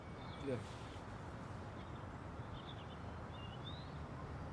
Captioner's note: birds chirping